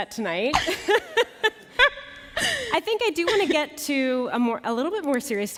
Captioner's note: laughter